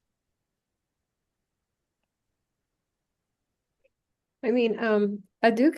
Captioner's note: silence